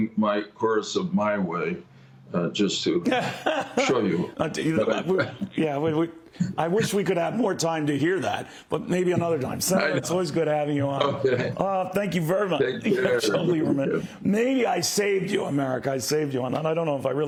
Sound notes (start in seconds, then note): 11.0 laughter